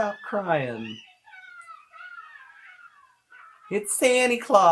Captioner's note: children squeal